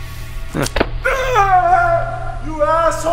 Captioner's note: screams